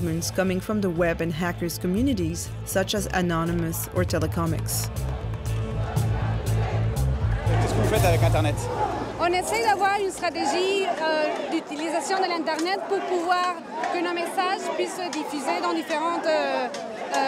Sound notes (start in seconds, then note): 7.7 speaking in a foreign language